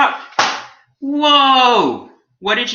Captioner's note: book hitting floor